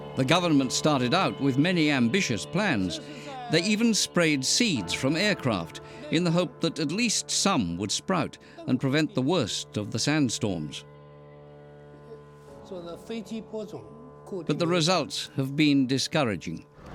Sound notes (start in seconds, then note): 12.7 speaking Chinese